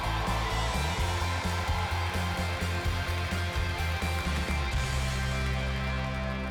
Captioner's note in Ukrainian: оплески